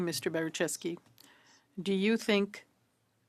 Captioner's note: speaking in French